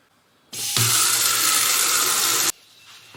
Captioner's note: running water sounds